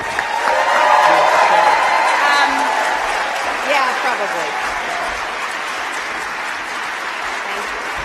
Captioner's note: applause